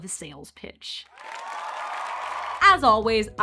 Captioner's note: crowd Cheering